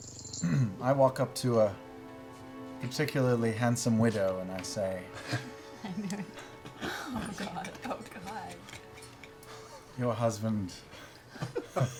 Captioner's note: clears throat